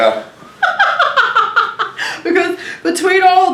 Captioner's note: laughs